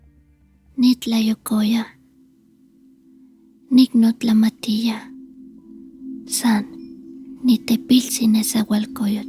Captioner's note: Speaking Nahuatl